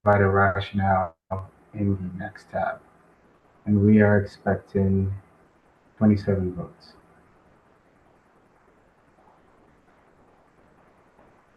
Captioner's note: pause